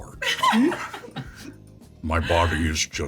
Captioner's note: all laughing